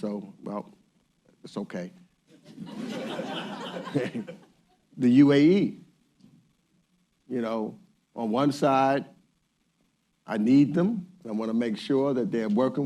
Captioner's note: laughter